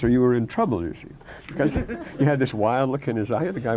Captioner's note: laughter